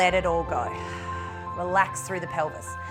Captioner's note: exhales